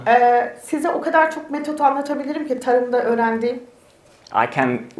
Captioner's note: speaks in Turkish